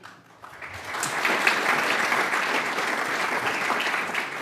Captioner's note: applause